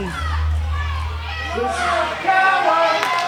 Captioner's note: audience shouting; audience claps rhythmically